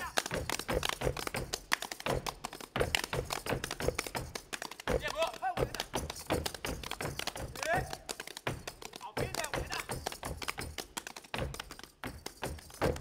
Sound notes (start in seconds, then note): 0.0 speaking language other than English; 0.3 feet stomping and hands clapping; 9.5 speaking language other than English; 12.7 feet stomping